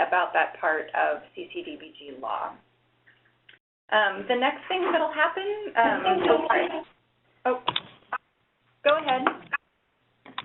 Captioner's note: static